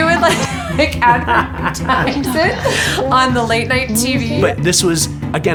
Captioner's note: laughing